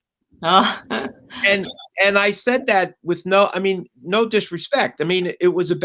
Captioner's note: laughter